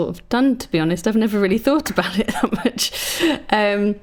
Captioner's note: laughs